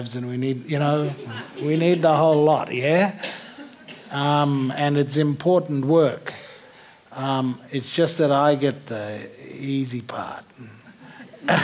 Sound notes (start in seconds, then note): 10.9 laughter